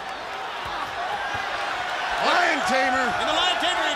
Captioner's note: crowd cheering